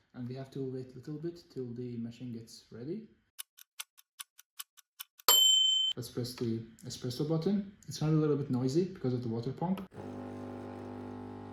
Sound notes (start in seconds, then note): 3.2 tick Tack sound effect; 5.3 ding sound effect; 10.0 water pump working